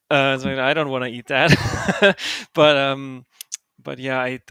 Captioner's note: laughs